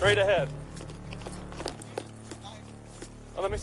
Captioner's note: equipment rattling